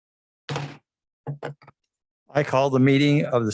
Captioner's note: gavel bangs